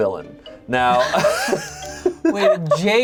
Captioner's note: laughs